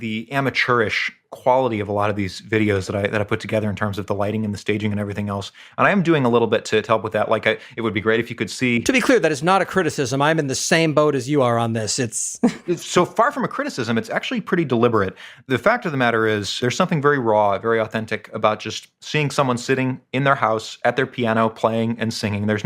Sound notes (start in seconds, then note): 12.4 laugh